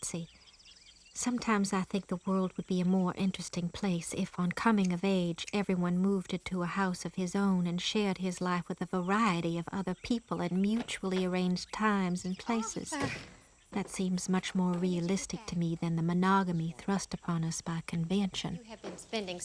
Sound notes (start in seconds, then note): 13.1 door clicking